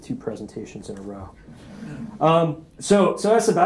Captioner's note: attendees chuckling